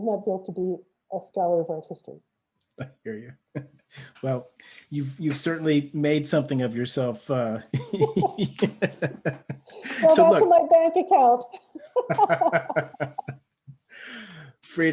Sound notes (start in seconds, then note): 7.3 laughs; 11.6 both laugh